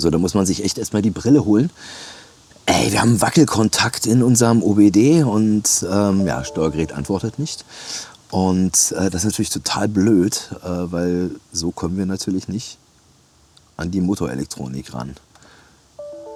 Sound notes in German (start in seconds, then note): none